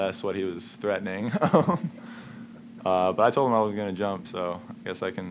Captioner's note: laughs